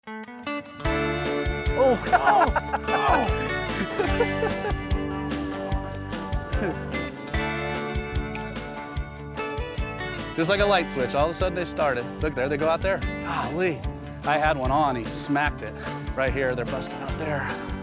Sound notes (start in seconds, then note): 0.5 country music; 1.7 laughing